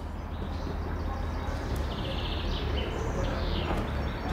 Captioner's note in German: Fernes Verkehrsrauschen, Vogelzwitschern